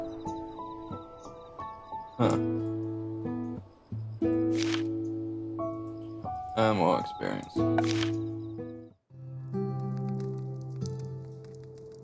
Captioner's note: yawn